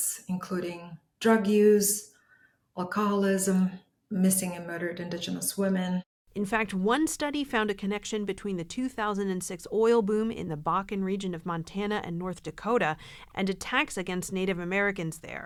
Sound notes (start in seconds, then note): 6.8 voice-over